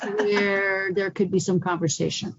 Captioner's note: laughter